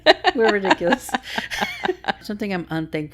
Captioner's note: laughing